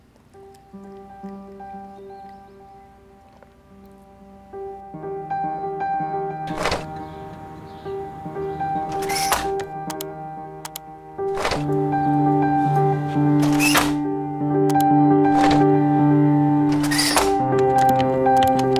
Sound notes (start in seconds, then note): 1.6 relaxing music; 6.4 windows opening